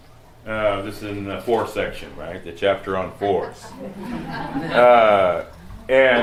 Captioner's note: laughter